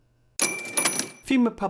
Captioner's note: soft dinging